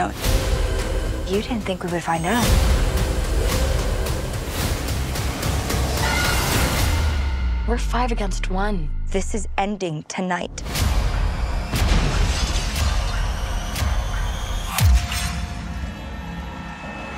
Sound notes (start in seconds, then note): 4.3 music builds; 6.0 screams; 10.5 suspenseful music plays